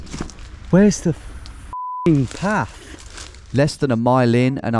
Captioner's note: beep